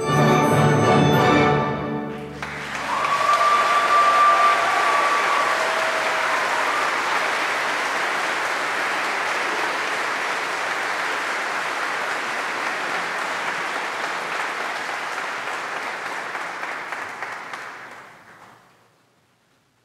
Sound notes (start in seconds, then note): 2.1 audience applauding; 2.3 audience cheering; 9.6 audience applause continues